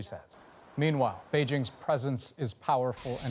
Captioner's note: speaking chinese